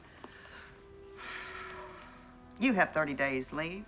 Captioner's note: sighs